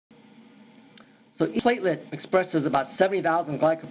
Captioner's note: audio breaks